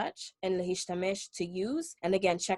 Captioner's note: speaking Hebrew